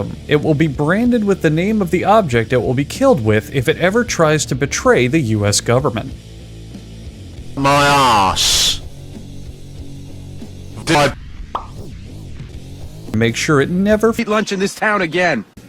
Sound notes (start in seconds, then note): 11.5 pop of death